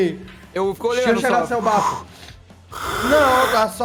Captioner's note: exhales